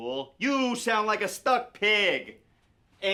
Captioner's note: none